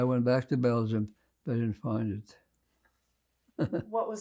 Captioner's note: laughing